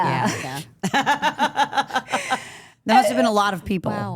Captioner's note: group laughs